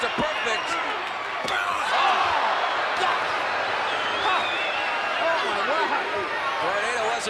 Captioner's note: applause